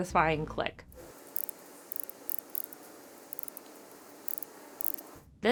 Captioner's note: watch bezel clicking